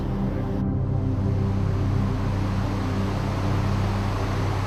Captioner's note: river gushing